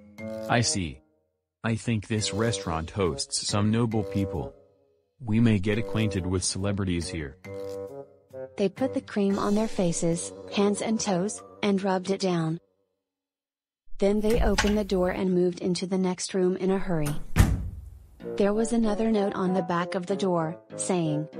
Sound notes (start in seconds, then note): none